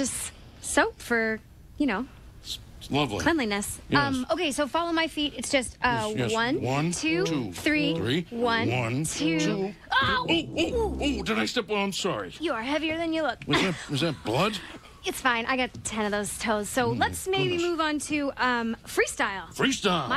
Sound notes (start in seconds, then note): 13.5 chuckles